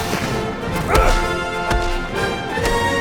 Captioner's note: grunting